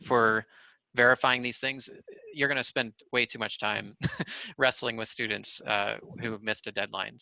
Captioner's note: laughter